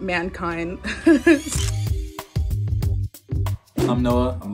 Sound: laughs; camera click

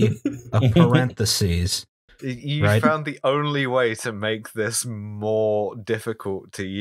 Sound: laughter

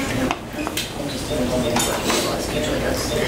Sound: talking

